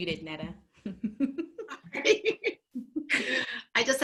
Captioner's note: laugh